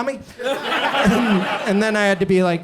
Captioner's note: audience laughs